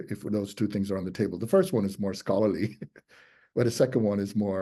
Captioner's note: chuckles